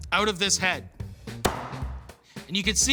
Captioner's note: thudding